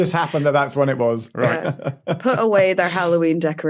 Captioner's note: chuckles